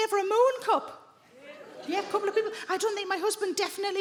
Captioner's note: women murmur